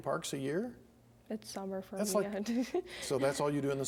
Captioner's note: giggles